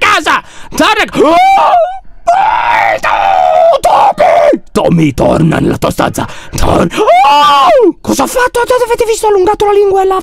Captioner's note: screams